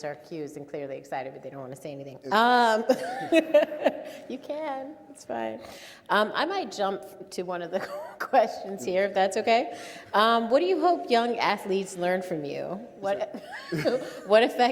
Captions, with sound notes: are accused and clearly excited but they don't wanna say anything. (all laugh) You can, it's fine. I might jump to (laughs) one of the questions here if that's okay. What do you hope young athletes learn from you? What, (both laugh)